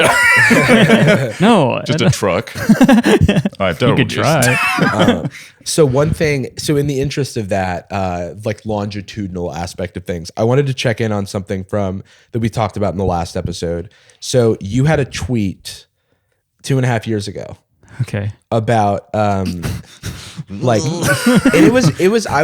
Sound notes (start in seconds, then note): 0.0 laughs; 2.4 laughter